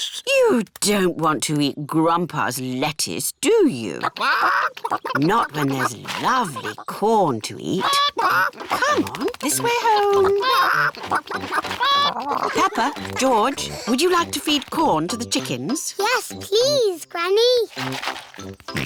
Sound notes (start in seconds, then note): 4.1 chickens chatter